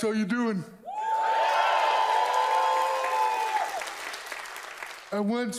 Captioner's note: audience cheers loudly